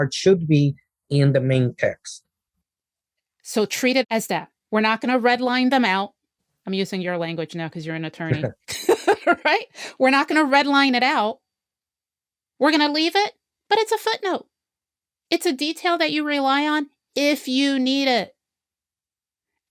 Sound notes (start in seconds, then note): 8.3 laughs